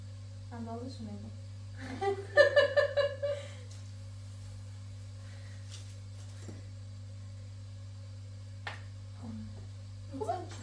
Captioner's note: laughter